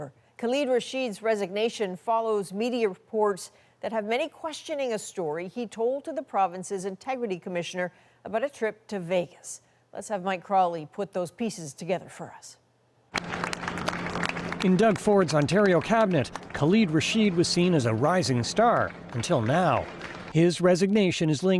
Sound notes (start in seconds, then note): 16.8 applause